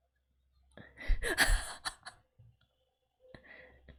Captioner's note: laughs